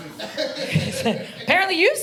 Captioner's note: audience member laughing